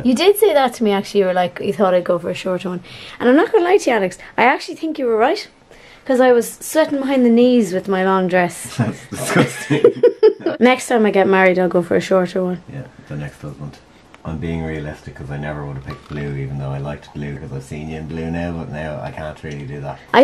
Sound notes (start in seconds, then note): 9.2 laughs